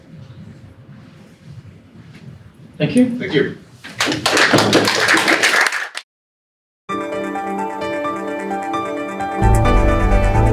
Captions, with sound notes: Thank you - Thank you. (audience applauding) (upbeat music)